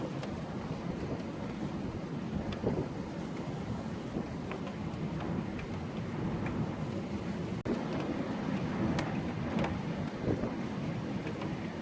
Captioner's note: wind gust; wind noise